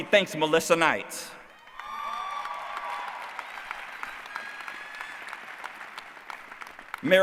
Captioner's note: applause